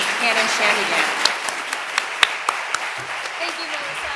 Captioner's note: audience clapping